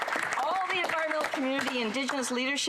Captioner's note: some Applause